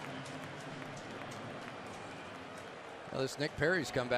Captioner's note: pa announcement